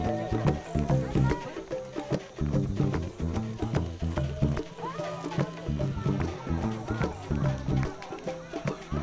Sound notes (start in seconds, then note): 0.6 indistinct chatter